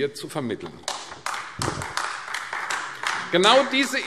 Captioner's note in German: Beifall AfD